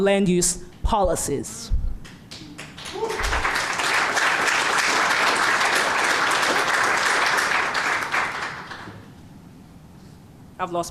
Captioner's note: applause